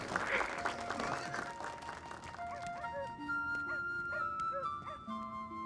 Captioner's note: dog barking in distance